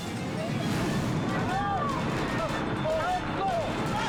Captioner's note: people exclaiming